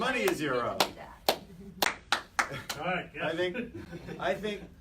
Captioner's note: clapping